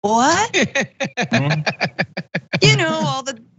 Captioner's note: laugh